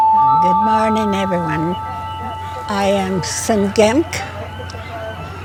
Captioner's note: in Gitxsan